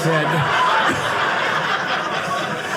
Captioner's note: audience laughing